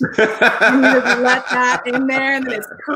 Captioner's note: laughs